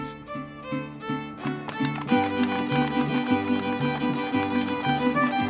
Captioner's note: upbeat folk music playing; wooden shoes clattering